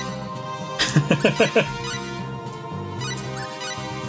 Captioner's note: laughs